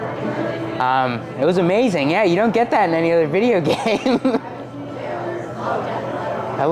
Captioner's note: laughs